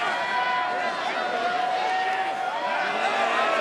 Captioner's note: crowd shouting